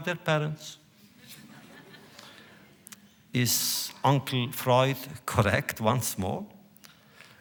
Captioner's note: laughter